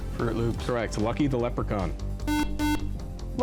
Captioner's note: buzzer